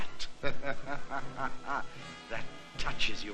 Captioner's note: laughing